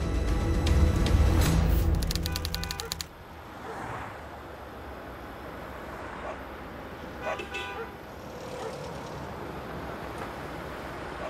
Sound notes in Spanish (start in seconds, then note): 7.1 Ruido de los autos; 7.2 Ladridos